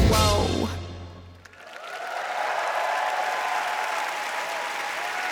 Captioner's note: applause